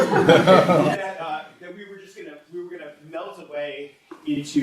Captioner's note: audience laughs